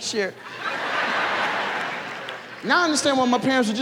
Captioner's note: audience laughs